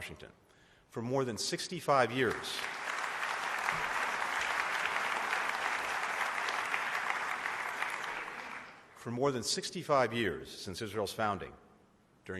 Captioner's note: applause